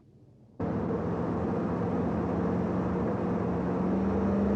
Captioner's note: engine rumbling